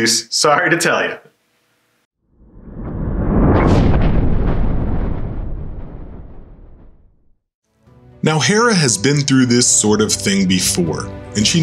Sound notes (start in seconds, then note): 2.3 thunder